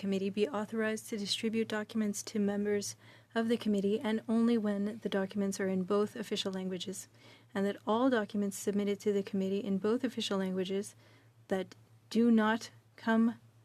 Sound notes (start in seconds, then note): 3.6 speaking french